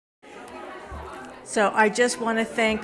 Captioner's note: attendees chattering